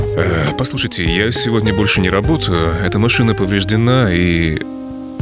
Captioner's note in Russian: тяжело вздыхает